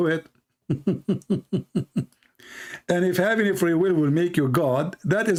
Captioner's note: Ketawa